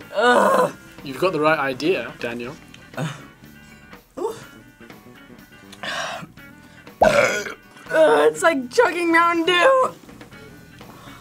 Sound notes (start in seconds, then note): 6.9 burps